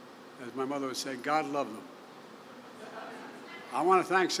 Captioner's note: laughter